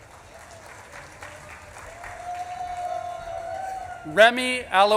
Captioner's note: audience claps and cheers